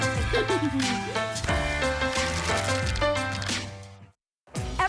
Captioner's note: laugh